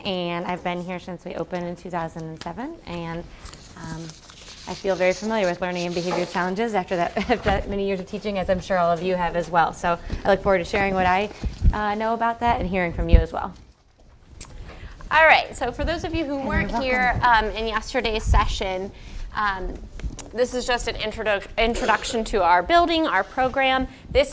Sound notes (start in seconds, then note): 6.3 laugh